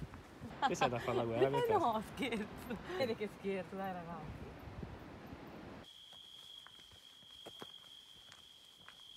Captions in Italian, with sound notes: Sei andata a fare la guerra?(risata) Noo scherzo! Si vede che scherzo dai ragazzi!